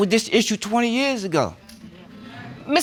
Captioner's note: audience murmuring